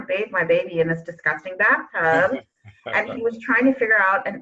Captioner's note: laughing